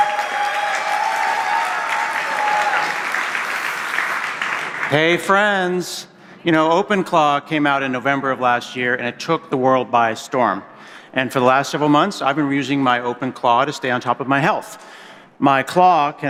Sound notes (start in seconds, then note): 4.9 cheers and applause